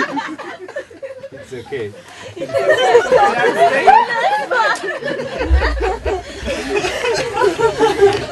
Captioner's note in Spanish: risas; risas